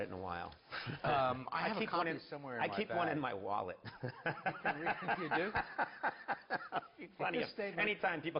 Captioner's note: laughs